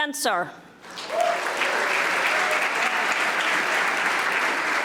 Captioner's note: audience applauding